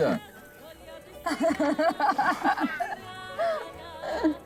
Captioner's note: laughing